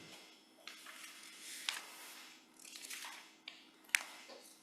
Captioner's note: papers shuffling